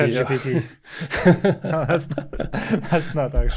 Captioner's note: both laughing